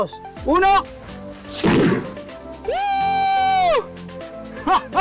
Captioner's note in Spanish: Explosión; Risas